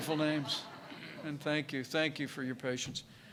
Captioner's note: laughter